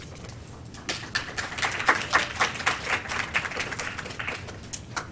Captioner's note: applause